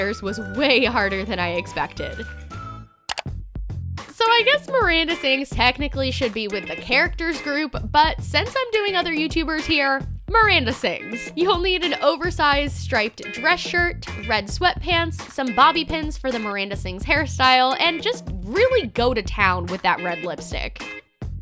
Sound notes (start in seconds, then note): 3.1 clicking